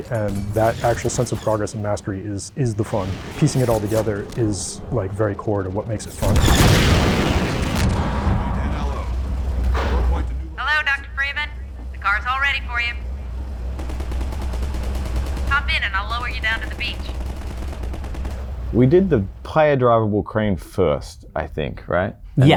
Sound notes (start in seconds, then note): 5.8 loud explosion